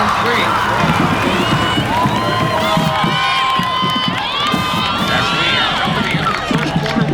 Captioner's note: cheering; radio Announcer